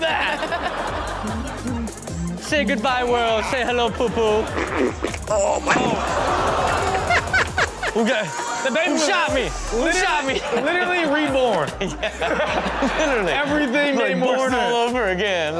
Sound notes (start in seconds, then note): 0.3 audience laughs; 4.6 audience laughs; 4.6 pooping sounds; 8.0 baby cries; 9.7 audience laughs; 10.2 host laughs